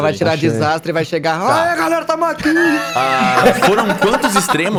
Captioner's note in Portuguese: risada